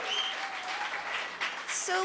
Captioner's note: applause